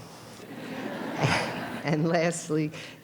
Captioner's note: audience laughter